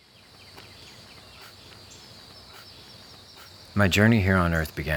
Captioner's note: birds singing